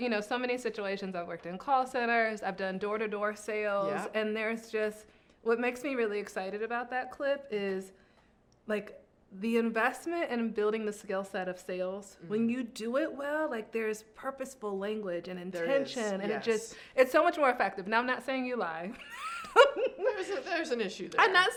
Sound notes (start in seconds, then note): 19.0 laughing